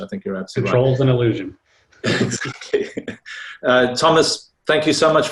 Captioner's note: laughs